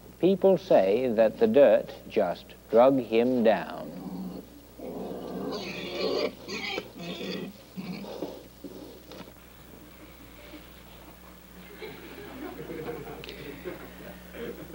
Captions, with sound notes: People say that the dirt just drug him down. (pigs squealing) (audience laughing)